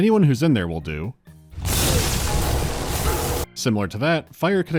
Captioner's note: buzzing of electricity